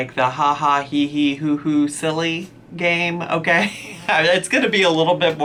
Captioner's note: laughs